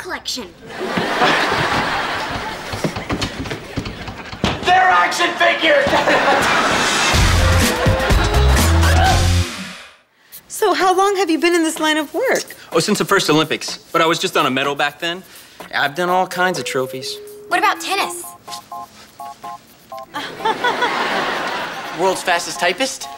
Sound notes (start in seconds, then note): 7.1 whimpers